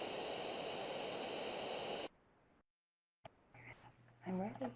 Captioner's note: silence